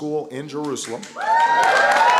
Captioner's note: applause